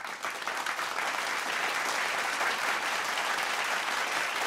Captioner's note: audience applauds